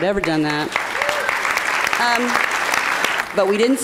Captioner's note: applause